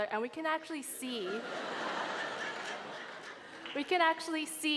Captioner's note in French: Rires